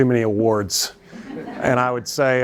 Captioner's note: laughter